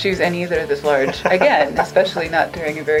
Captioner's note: laughter